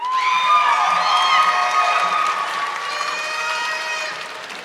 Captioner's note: audience clapping